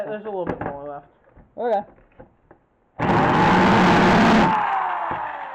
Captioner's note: drilling